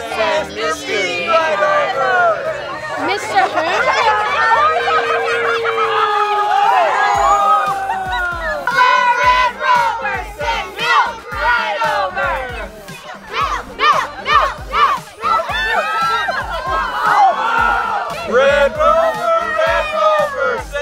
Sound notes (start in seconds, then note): 5.6 crowd groaning; 7.2 cheering; 8.9 team yelling in Unison; 14.2 cheering